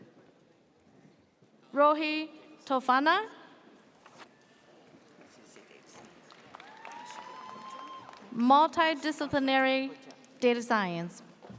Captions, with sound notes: - Rawhi Tofana. (audience cheers) Multidisciplinary data science.